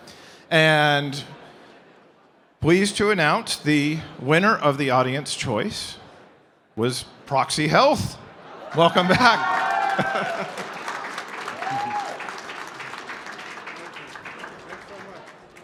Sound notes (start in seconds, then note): 9.0 applause